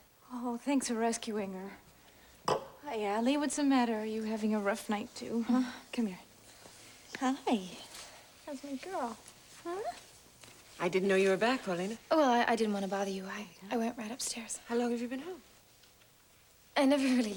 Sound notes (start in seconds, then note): none